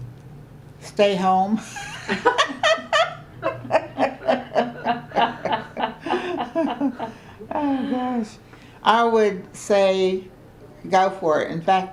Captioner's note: laughter